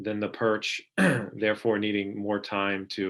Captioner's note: clearing throat